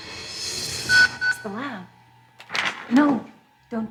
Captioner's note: pager beeps